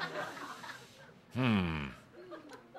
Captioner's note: laughter